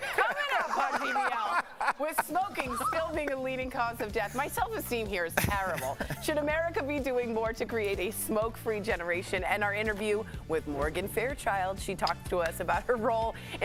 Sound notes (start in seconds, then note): 5.3 laughter